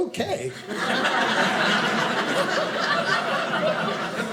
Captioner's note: audience laughing